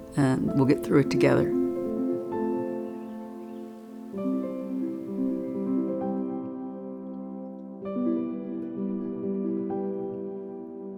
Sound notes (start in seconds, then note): 1.8 birds chirping; 1.8 gentle upbeat music